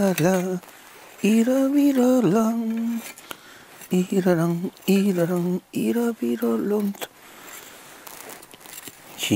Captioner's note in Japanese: 鼻歌